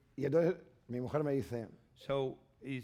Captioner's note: speaking spanish